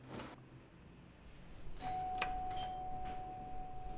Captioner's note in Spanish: Suena el timbre de la puerta